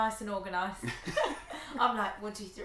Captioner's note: both laughing